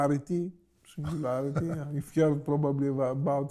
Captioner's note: laughs